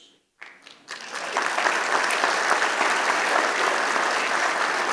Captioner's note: applause